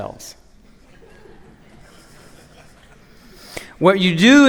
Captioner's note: laughter